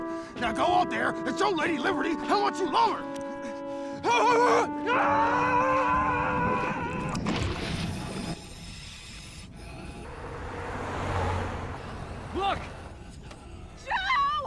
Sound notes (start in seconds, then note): 4.8 whooping and screaming